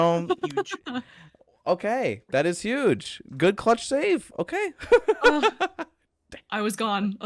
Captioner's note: laughs